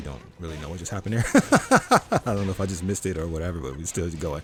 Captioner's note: laughs